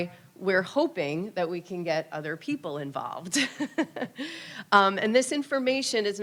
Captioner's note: laughs